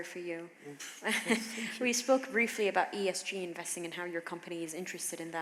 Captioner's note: chuckles